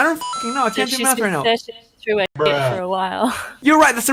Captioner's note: chuckles